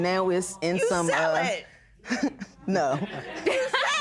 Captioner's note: chuckles